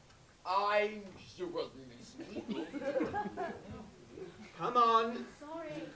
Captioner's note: laughter